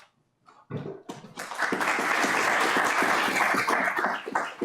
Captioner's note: applause